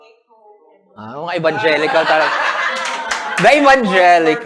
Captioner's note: laughter